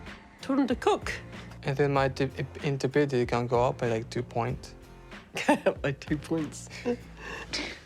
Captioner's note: laughs